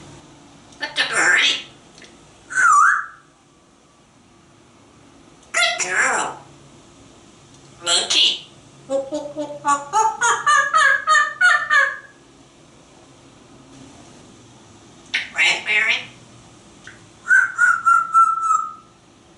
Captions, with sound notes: What the birdie? [whistling] Good girl! Monkey. [monkey sounds] Raspberry? [whistling]